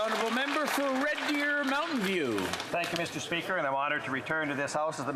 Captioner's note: applause